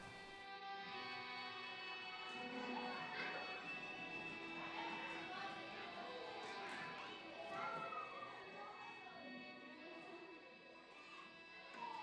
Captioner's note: children's sounds playing background